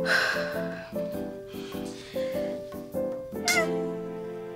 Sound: sighs heavily

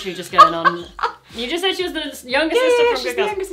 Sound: laughs

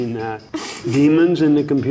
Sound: laughs

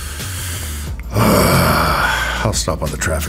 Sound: Gil exhaling strongly

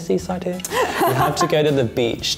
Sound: laughs

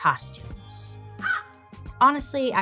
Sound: bird caws

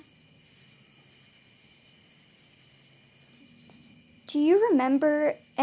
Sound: insects chirping

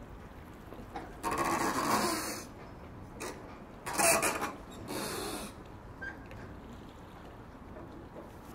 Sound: squeaking/creaking sea vessel

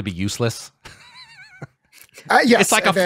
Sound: laughs

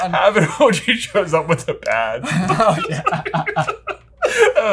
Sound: laughing

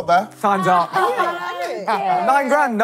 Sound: laughing

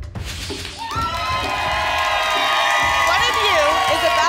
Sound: applause and cheering

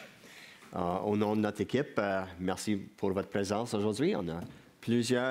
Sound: speaking in French

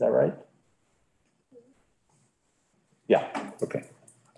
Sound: staff murmuring

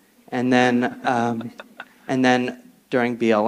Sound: panelists chuckle

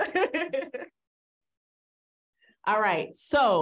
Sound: laughing

